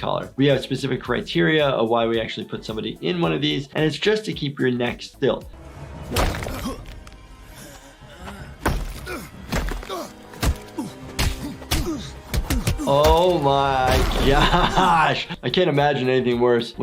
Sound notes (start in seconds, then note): 10.2 fists smacking